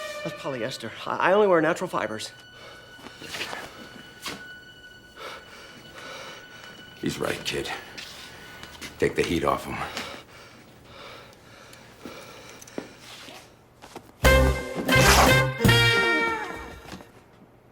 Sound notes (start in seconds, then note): 11.3 breathing heavily; 15.0 fabric tearing